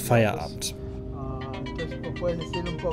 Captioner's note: cell phone ringing